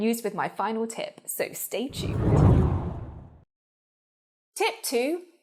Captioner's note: air whooshes